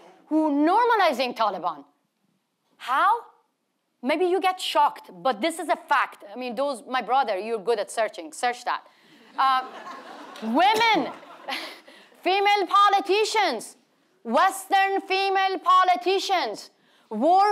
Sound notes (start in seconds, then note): 9.4 audience laughing